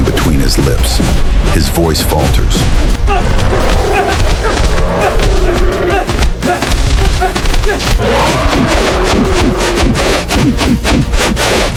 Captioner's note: gasping